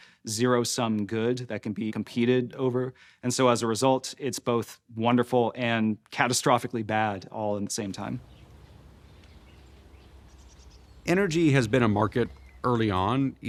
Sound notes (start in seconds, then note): 7.9 birds chirping